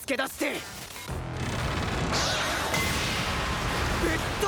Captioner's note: sounds of battle